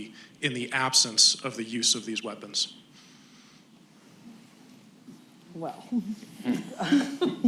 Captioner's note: laughter